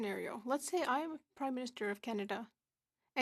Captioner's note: speaking French